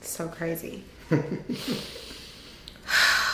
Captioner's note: laughing; sighs